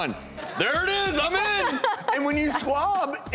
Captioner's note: laughing